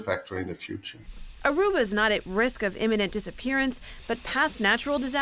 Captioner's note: voice-over